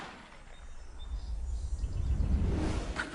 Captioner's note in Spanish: Disparo